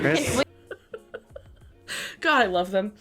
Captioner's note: laughs